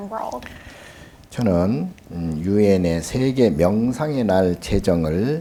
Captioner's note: speaking Korean